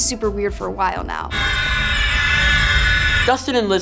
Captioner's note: screeching